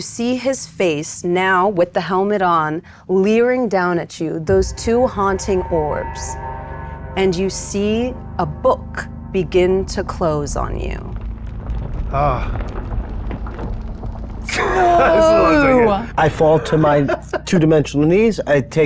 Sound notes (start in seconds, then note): 14.5 laughs